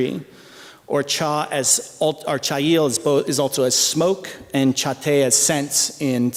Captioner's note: non-english speech